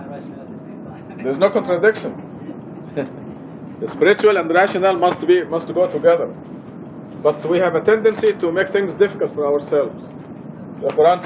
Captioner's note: gülyor